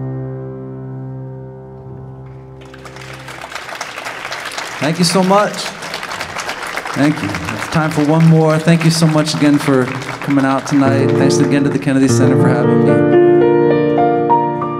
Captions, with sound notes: [audience applauding] Thank you so much. Thank you. There's time for one more. Thank you so much again for coming out tonight. Thanks again to the Kennedy Center for having me.